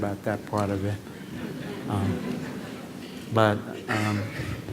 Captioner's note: laughter